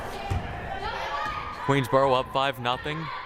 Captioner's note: players shouting